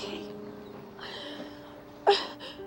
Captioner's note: sobbing